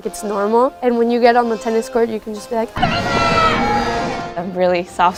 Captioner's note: screams